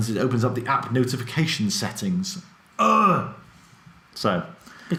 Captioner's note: groans with annoyance